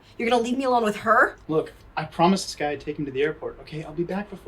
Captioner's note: none